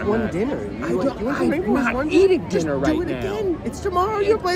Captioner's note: stammering